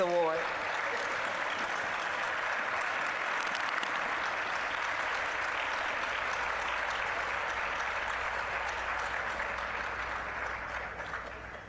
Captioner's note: applause